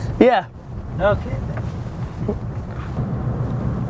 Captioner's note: voiceover; voiceover